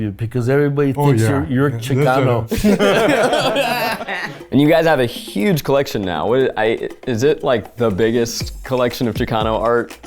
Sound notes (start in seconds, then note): 2.4 group laughs